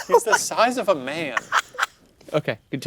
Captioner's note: laughs